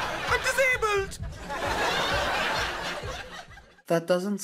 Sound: audience laughs

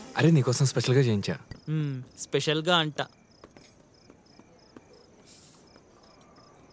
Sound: none

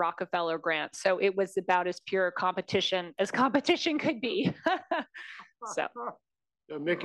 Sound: laugh

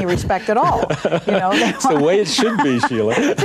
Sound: laughing

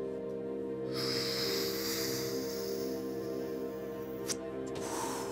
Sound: long inhaling sound

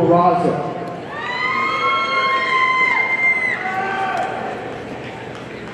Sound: audience cheering

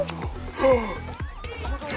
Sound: gasps

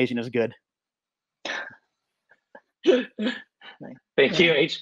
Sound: laughter

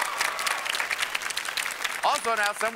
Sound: cheers and applause

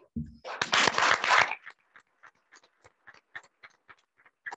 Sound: audience applauding

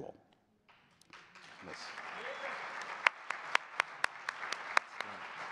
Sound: audience cheering and clapping

